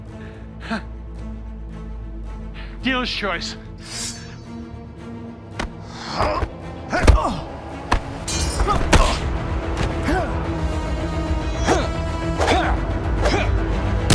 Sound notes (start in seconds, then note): 0.2 dramatic music; 3.8 swords clanking; 5.8 dramatic music; 6.6 both moaning; 9.7 dramatic music; 11.4 both moaning; 12.9 dramatic music